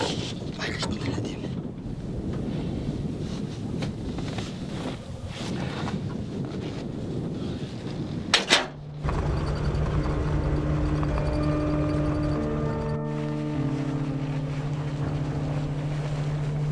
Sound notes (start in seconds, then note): 0.6 mutters under his breath